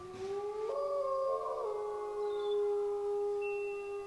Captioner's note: wolves howl